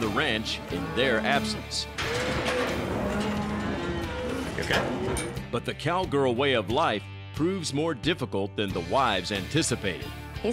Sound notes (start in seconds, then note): 2.2 cattle moo, bang